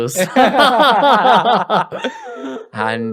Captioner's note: laughter